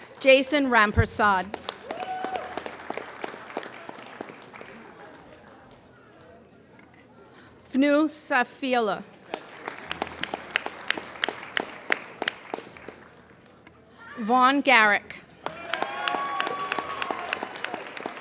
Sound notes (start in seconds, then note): 1.3 applauding; 9.2 applauding; 15.3 applauding